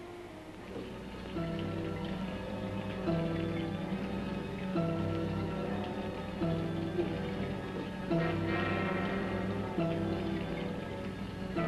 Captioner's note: liquids bubbling; ominous music